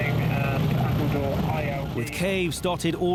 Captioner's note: boat engine revving